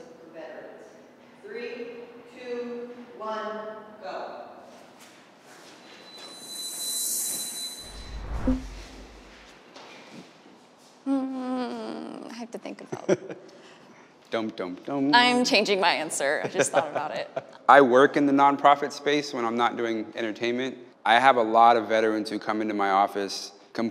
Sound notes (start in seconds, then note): 6.6 whooshes